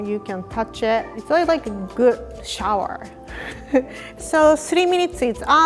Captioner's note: giggle